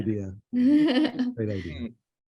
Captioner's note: laughing